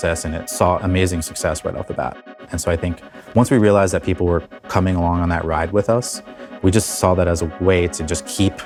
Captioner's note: none